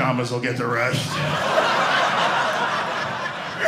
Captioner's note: audience laughing